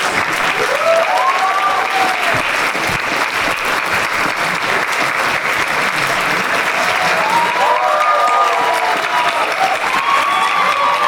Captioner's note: applause